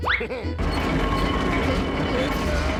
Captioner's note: grunts